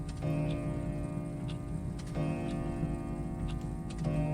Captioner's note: clock chiming